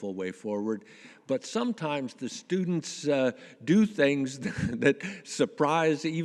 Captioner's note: chuckles